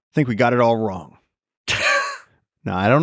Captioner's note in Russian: Лекс смеётся